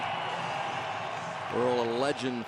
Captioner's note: cheering